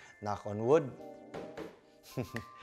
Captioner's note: knocks